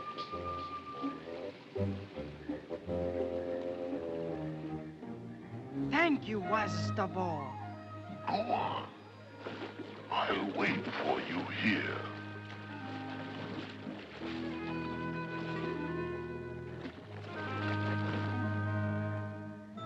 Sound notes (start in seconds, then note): 0.2 whimsical music; 12.0 water splashing; 13.6 ominous music; 13.6 water splashing